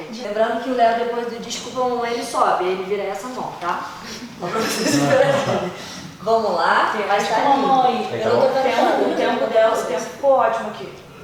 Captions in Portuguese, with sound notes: Lembrando que o Leo depois do "desculpa, mamãe", ele sobe. E aí vira essa mão, tá? (RISOS) Vamos lá. - Olha para a mamãe. - O tempo dela está ótimo.